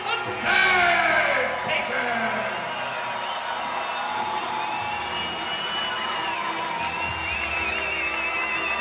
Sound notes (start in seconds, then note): 3.1 crowd cheering; 3.1 crowd whistling